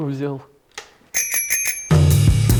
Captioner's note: very happy dinging